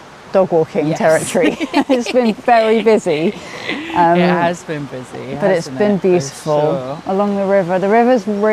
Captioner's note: giggles